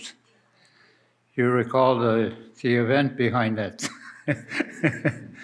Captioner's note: laughs